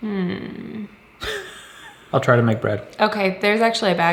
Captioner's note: laughs